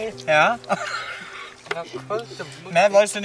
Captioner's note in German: lacht